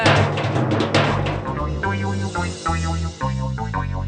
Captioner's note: clunking